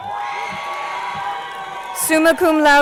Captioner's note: crowd cheering